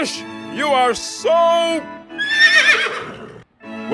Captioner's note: horse whinnies